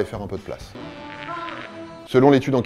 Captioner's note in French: bruit de prout